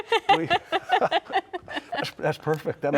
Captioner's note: laughing